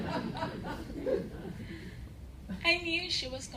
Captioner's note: laughter